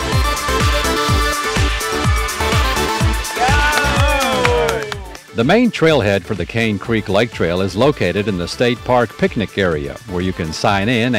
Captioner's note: cheers